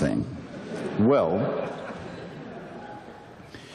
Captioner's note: audience laughter